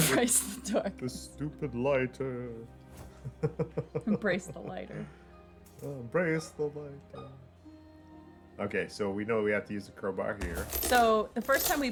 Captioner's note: laughs